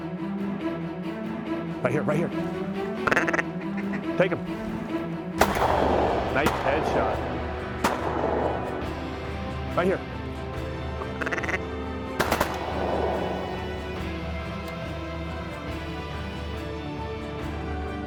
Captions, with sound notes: >RIGHT HERE, RIGHT HERE. TAKE 'EM. (GUN SHOTS) RIGHT HERE. (DUCK CALLS) (GUN SHOTS)